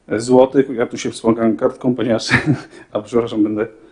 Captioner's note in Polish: śmiech